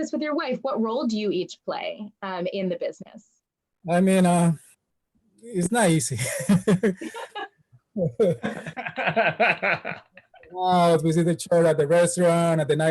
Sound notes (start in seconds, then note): 8.0 everyone laughs; 8.0 laughs